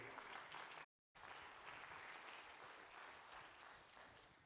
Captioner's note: applause